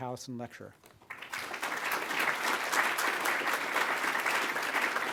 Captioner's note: audience applauds